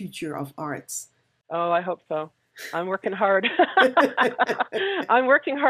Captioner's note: laughs